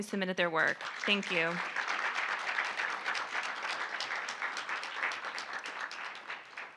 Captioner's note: audience applauding